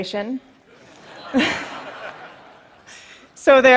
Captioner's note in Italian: Risate